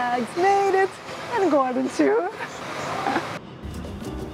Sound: laughs

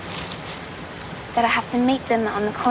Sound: none

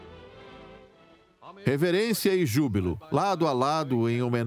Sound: voiceover

